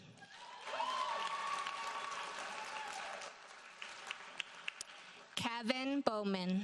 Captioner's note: audience cheers and applauds